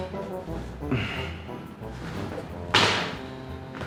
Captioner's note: sighs